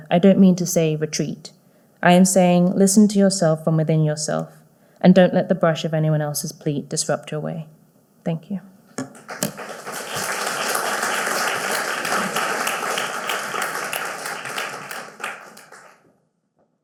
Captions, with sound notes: I don't mean to say retreat, I am saying listen to yourself from within yourself and don't let the brush of anyone else's plea disrupt your way. Thank you. (audience applauding)